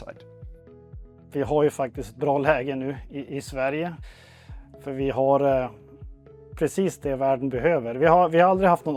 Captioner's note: in Swedish